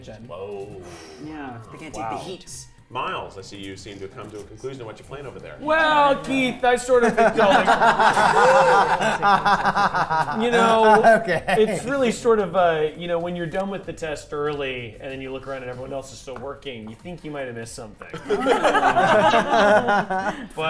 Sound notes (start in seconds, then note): 7.1 laughing; 10.6 laughs; 18.1 players laughing